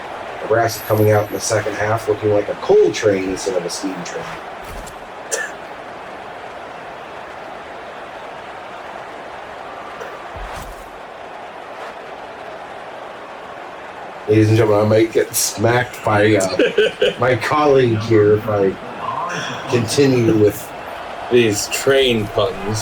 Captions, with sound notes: The rest coming out in the second half looking like a coal train instead of a steam train. [Crowd Noises] He's gonna make it smack by my colleague here by continue with these train buttons.